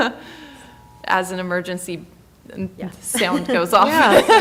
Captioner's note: laughing